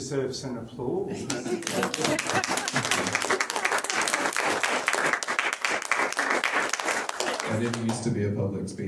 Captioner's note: audience claps